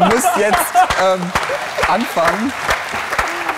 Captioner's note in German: Lachen; Applaus